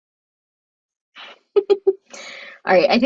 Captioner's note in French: rires